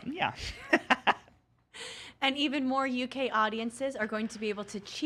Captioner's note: laughs